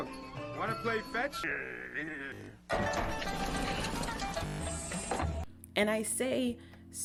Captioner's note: Courage growls